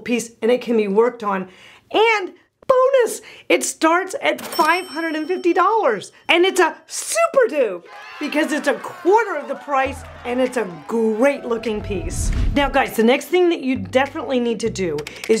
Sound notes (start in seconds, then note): 4.4 bell rings; 7.8 children cheering